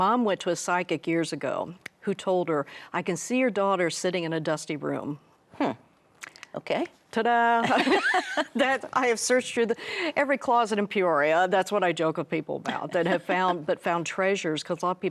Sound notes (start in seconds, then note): 7.7 both laughing